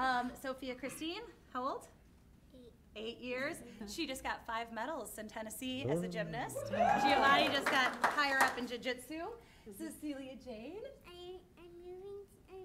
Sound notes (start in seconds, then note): 6.5 cheering; 6.6 applause